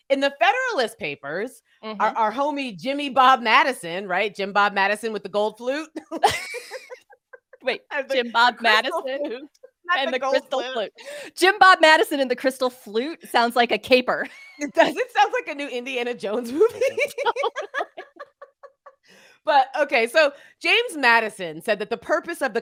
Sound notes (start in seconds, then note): 16.5 laughs